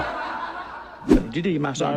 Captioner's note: laughter